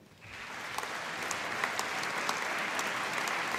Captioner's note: applause